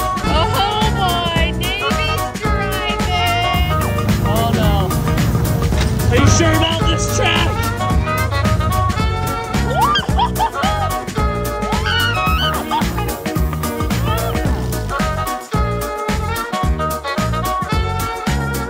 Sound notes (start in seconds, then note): 9.5 shouting; 12.8 upbeat music